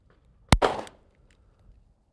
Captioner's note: bang